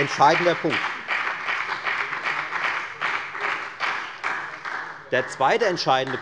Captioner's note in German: Beifall bei der FDP und bei Abgeordneten der SPD